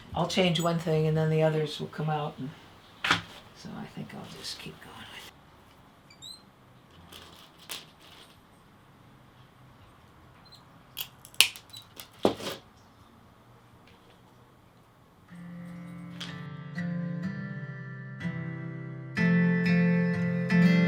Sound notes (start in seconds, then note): 11.0 tile snapping; 15.3 gentle guitar music